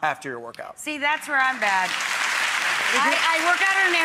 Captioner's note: audience applauds